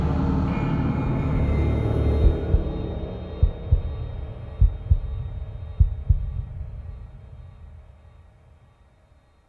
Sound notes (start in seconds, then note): 4.9 heart beating